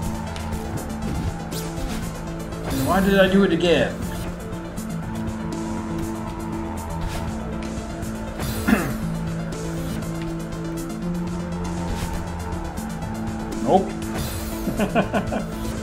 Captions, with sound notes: Why did I do it again? [clears throat] Nope! [chuckles]